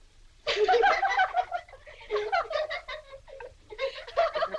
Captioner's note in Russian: смех